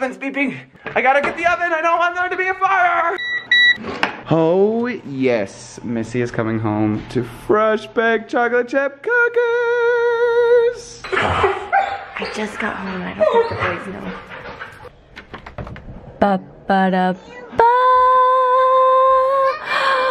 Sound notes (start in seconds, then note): 3.2 beeping